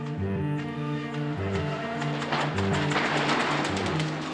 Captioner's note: cello music; wall crashing